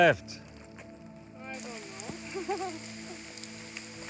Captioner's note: laughing